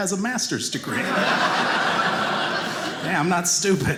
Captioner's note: audience laughing